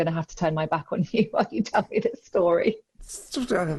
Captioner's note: chuckling